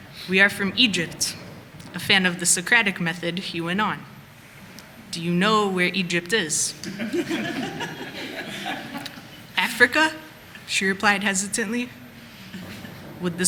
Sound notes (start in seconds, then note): 6.8 laughter